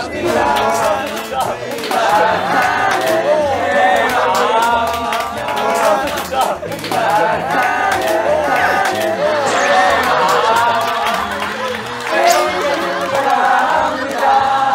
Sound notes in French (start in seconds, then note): 3.2 Oooh ~~ !